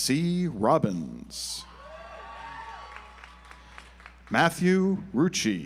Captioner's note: audience applauds